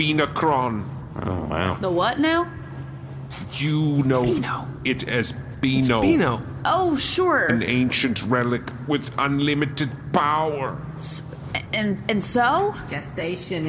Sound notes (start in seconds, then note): 5.8 whispering